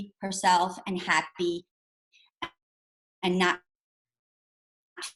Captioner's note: audio cuts out